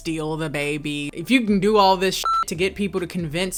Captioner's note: beep